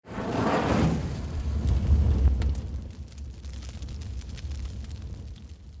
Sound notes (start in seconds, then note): 0.0 whooshing and fire crackling